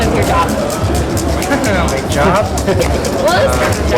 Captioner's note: laughs